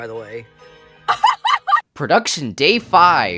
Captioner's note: laughs